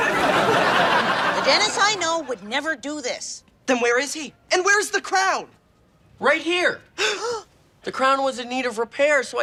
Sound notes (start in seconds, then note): 0.0 audience laughing; 7.0 gasping